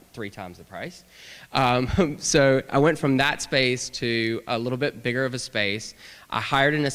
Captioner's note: laughter